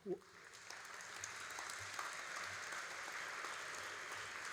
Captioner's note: all applauding